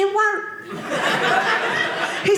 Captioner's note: audience laughing